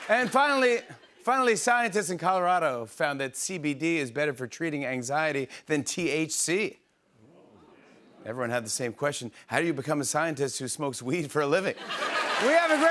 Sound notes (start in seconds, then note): 7.3 audience murmurs; 11.7 laughter